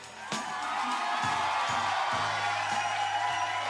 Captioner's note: audience applause and cheering